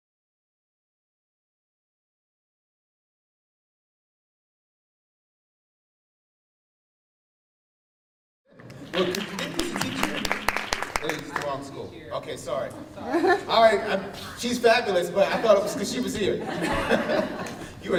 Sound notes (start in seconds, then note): 8.5 applause